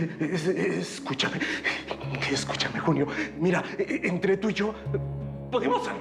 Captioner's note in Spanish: jadea y balbucea